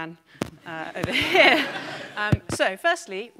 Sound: audience laughing

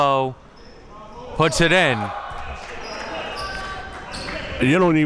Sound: applauding

